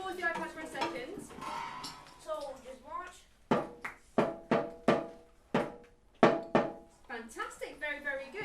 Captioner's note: children play